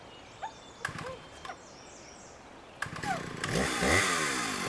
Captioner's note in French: ronflement de tronçonneuse